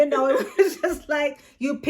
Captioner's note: both laugh